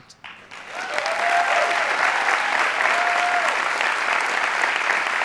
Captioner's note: audience applauding